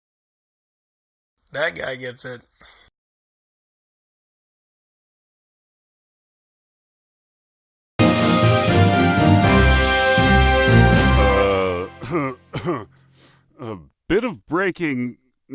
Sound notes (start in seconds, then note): 0.0 stunned silence; 12.0 2 coughs to clear throat